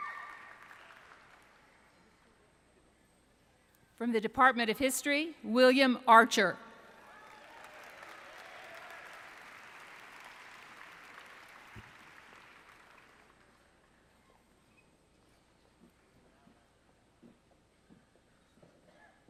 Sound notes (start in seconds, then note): 6.9 applause